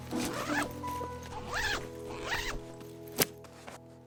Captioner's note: bag unzipping